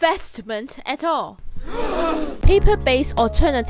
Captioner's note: the crowd is surprised